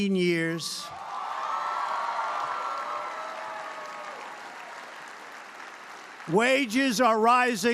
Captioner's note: applause